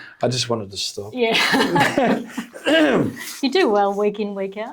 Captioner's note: laughs